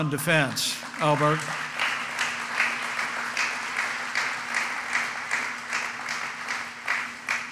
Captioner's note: applause